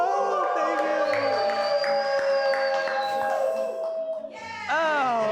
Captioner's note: cheering, applause